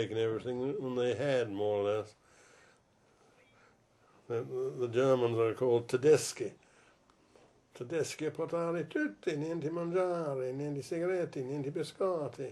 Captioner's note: quotes a bit of Italian